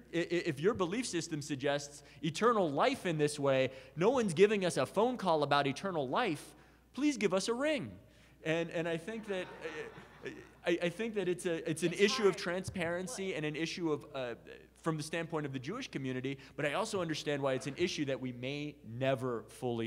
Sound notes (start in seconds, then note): 9.0 audience laughs